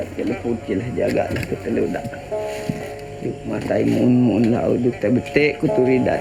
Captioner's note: speaking in foreign language